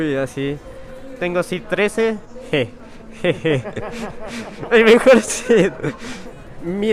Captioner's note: chuckles in wordplay